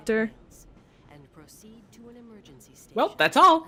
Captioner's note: silence